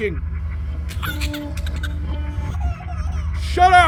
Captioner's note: high pitch baby laughter